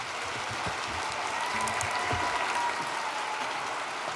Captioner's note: cheers and applause